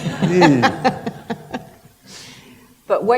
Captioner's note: laughter